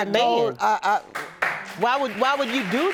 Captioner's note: audience applauding